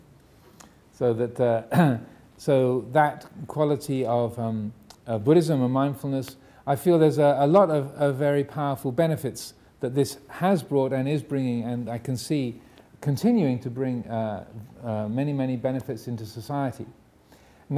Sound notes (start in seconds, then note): 1.7 coughs